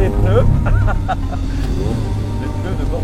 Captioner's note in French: Rire